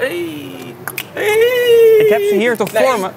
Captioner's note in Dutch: klikt met tong